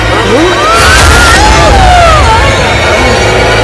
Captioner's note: Vishwas and Khushi screams